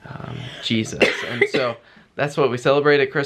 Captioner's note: coughing